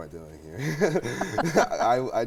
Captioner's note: laughs